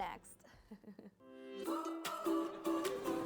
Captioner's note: chuckles; bright upbeat music